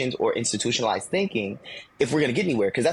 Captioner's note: none